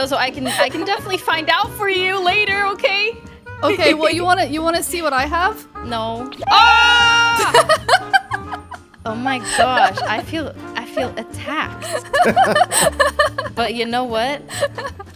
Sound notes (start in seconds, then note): 7.5 giggles; 11.9 laughs